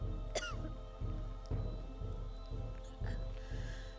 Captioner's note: Kyne coughs